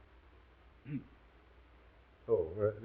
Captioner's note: Watson coughs